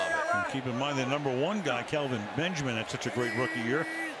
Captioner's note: cheers